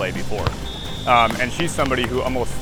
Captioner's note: referee whistle